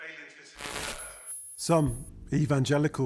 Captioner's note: static crackling